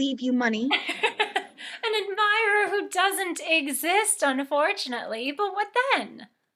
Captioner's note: laughing